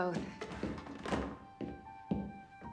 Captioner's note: footstep; door open close